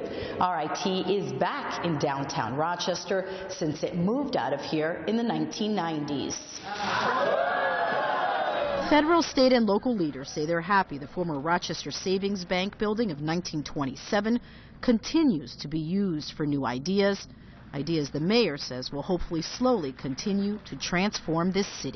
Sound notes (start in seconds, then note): 6.6 cheers